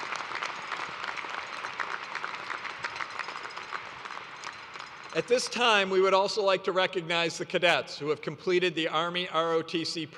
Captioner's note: applause